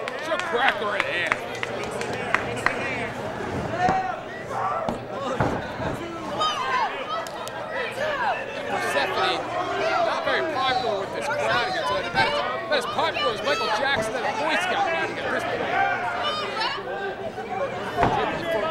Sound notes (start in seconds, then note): 4.7 collective shouting